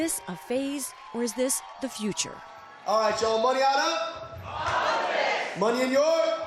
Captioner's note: cheering